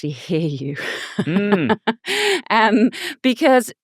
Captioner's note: laughing